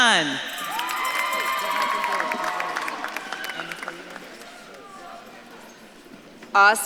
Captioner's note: audience claps and cheers